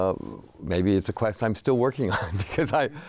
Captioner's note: laughs